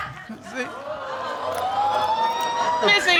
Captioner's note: audience exclaiming